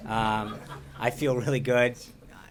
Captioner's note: laughter